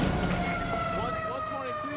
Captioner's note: gunshot; siren wails